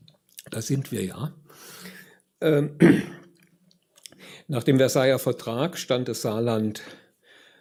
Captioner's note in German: räuspern